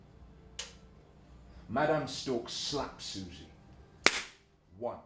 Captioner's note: slap